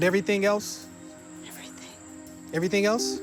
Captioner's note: whispering